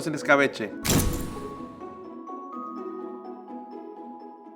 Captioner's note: camera snaps